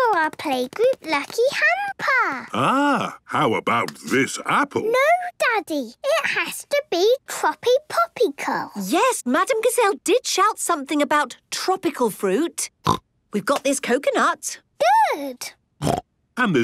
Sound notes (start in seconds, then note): 13.2 snorts